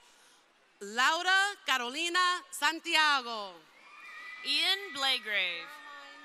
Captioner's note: crowd cheering